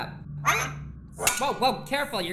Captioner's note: bonk